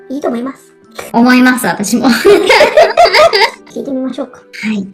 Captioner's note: laughs